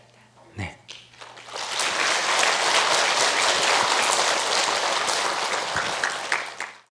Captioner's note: audience applause